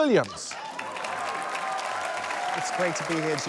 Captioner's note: cheers, applause